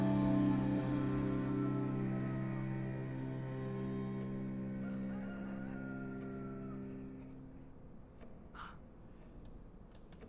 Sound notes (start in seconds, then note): 1.2 rooster crows